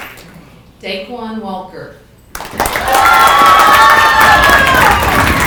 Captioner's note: people clapping